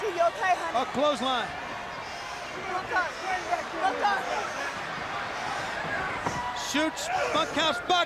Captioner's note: crowd chatter